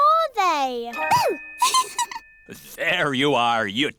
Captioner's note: giggles